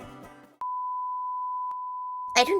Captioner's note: TV no signal noise